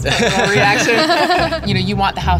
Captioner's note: laughing